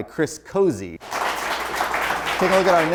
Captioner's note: applause